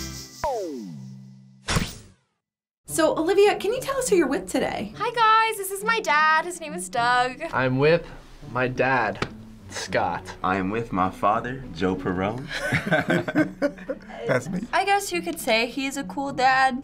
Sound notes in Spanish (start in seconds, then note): 12.5 riendo